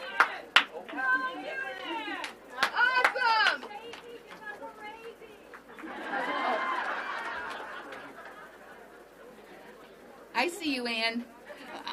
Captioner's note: applause; laughter